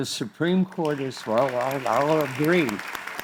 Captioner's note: crowd applauds